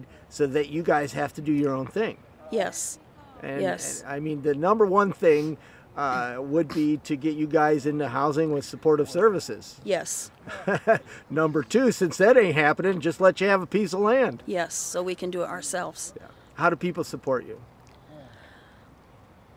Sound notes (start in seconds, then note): 10.4 laughs